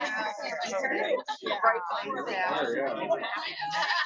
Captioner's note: background chatter